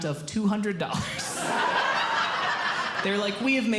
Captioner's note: audience Laughing